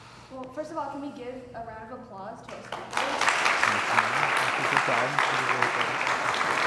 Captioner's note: applause